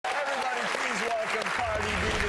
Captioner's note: audience applauding